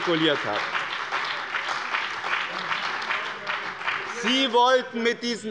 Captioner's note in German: Beifall bei dem BÜNDNIS 90/DIE GRÜNEN und der CDU